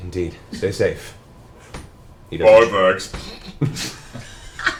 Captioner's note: laughs